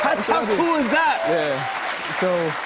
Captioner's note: applause